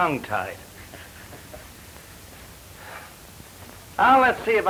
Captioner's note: Malone laughs